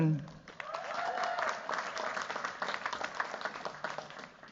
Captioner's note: cheers, applause